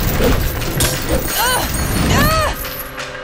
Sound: groaning

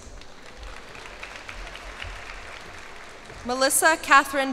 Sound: cheers and applause

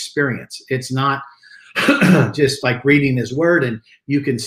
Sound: clears throat

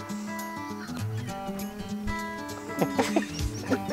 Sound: laughs

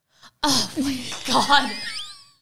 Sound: both laughing

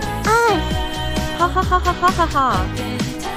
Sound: rita laughing

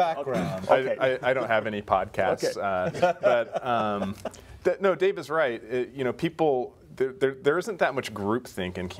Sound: laughter; laughter

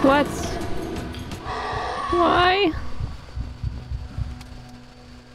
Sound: chase music; heartbeat

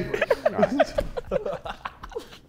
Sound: Sidemen laughing

